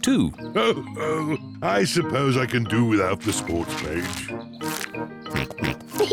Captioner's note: chuckles; snorts, chuckles